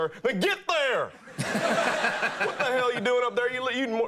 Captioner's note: audience laughing